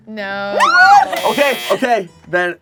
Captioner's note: buzzer buzzes